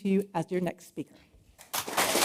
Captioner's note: applause